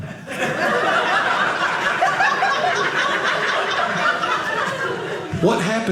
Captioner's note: audience laughing